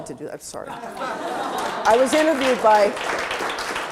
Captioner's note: audience applause